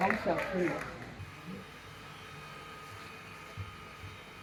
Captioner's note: whirring sound